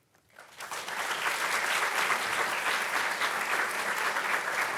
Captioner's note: audience clapping